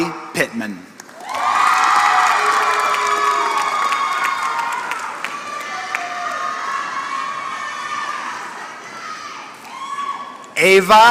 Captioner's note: applause